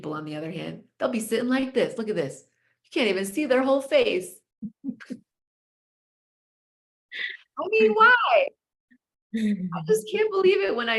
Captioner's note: chuckles